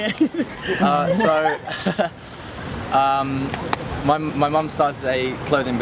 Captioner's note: chuckles